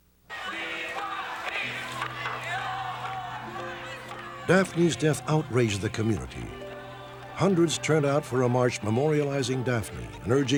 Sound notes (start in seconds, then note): 1.9 crowd chanting